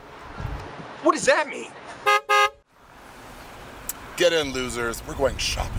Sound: car horn honking

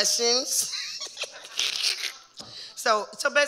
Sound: giggling

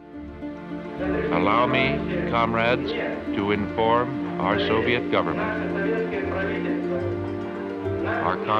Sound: through translator

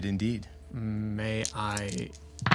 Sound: dice rolling

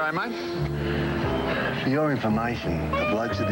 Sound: sighs

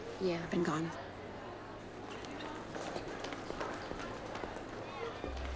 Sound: indistinct chatter

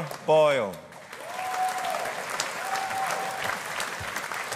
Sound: audience applauding

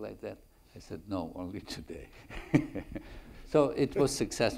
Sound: laughs

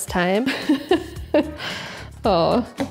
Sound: laughing

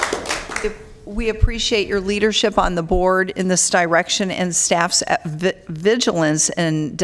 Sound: applause

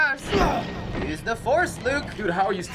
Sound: Ethan grunts

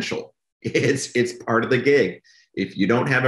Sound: laughs

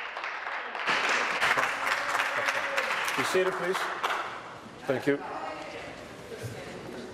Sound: applause

